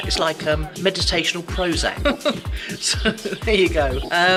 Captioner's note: laughs